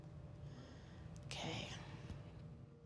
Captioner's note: inhales